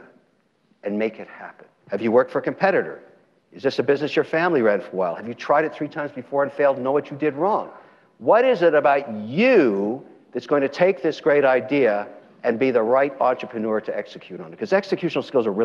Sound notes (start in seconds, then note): none